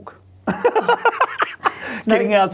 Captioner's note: both laughing